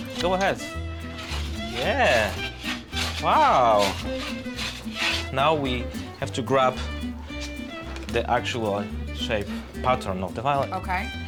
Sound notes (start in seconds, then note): 0.9 scraping sound